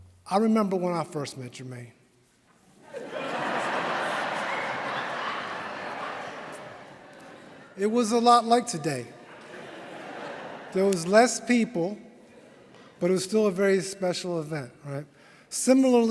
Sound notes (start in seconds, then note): 5.7 laughter